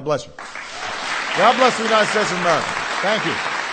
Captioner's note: applause